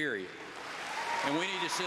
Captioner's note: applause